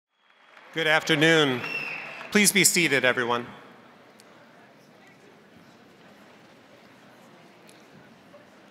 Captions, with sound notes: (crowd applauding) - Good afternoon. Please be seated everyone.